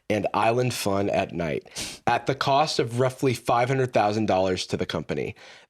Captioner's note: none